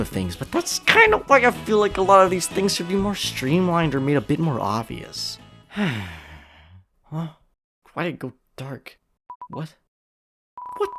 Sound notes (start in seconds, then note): 5.7 sighs